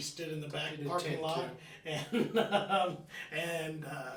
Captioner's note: laughing